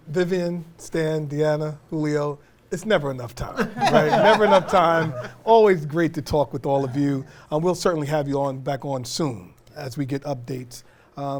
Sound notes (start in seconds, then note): 3.5 laughter